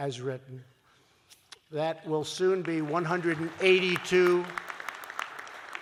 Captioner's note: applause